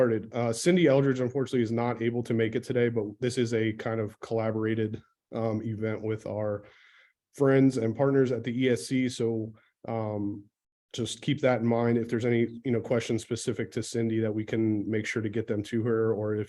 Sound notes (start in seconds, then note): none